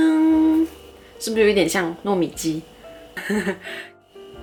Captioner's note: chuckles